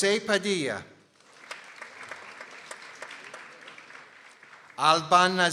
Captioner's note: people applauding